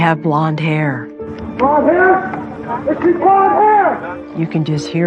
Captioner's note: shouting